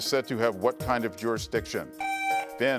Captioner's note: buzzer beeps